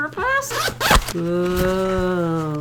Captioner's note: zips opens